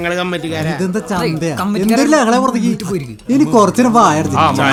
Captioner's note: indistinct chatters